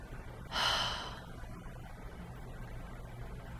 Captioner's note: sigh